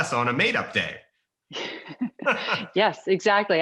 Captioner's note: both laugh